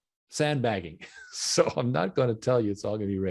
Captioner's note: chuckling